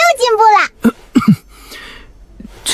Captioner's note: cough